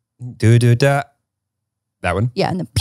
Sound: humming

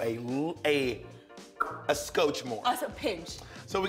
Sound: pops lips

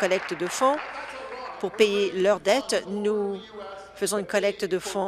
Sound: applause

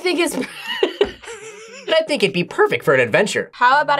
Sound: laughs

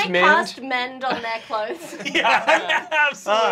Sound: laughter

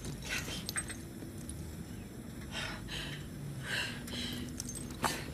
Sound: gasping breath

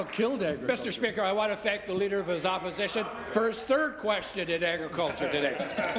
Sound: applause

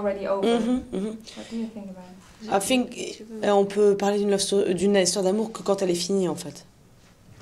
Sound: speak French

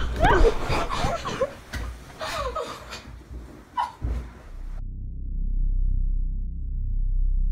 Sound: tense music; Gabby crying

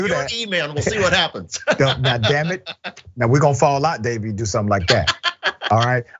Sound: laugh

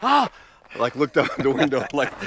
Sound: gasps

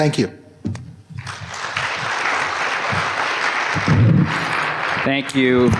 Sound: applause

